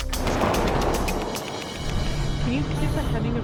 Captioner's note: truck gliding